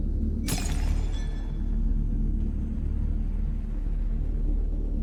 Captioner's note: prototype shatters